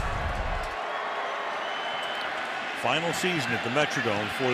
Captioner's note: cheering